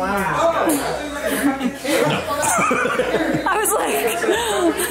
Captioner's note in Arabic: يضحك